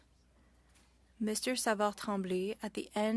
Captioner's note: speaking French